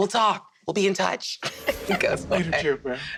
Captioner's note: magical sound effect